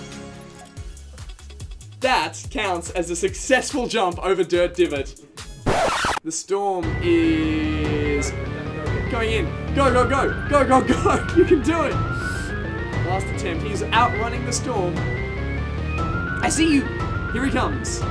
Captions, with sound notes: That counts as a successful jump over Dirt Divot. (RECORD PLAYER SCRATCH) The storm is... going in. Go Gog go! Go Gog go! You can do it! Last attempt. He's outrunning the storm. I see you! Here he comes.